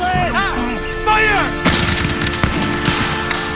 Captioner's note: man shouts in French; guns fire